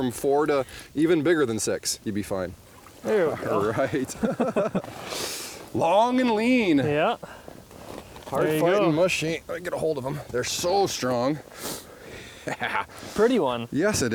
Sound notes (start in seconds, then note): 4.8 laughing; 10.2 pat